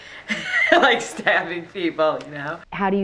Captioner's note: laughing